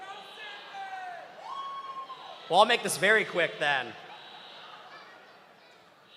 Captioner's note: buzzer